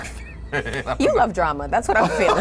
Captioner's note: laughs